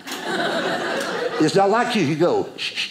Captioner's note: audience laughing